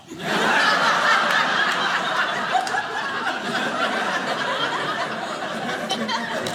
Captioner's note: audience laughing